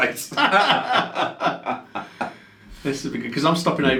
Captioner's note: they laugh